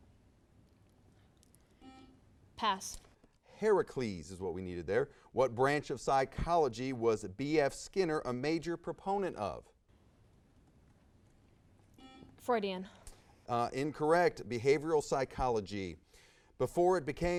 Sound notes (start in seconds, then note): 1.8 buzz; 11.9 buzz